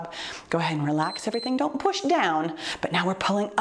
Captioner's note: timer beeps